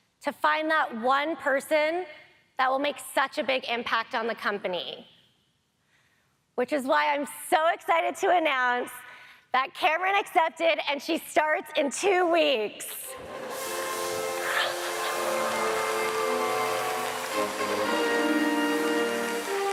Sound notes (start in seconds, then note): 13.1 audience applauds; 13.2 trumpet music